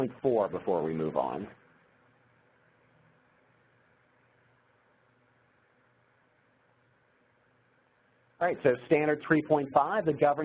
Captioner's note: pause